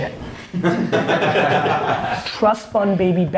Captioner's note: laughs